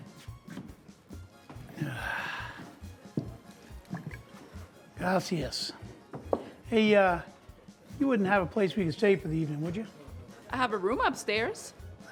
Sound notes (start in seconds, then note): 1.7 Dutch sighs